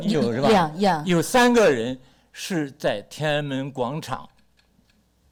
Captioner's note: speaks Mandarin